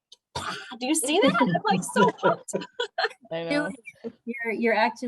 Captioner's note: laughter